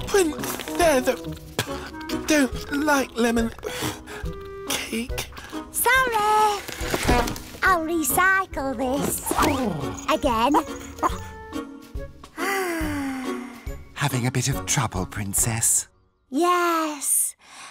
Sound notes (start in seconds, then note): 12.3 sighs